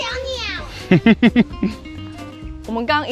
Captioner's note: laughs